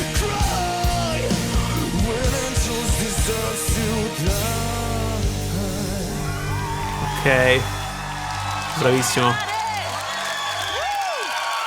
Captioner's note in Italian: Applauso